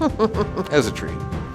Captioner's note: laughs